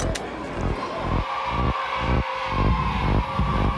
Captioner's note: cheering